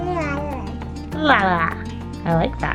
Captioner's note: babbles